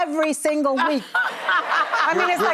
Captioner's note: audience laughing